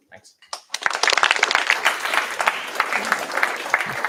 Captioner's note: applause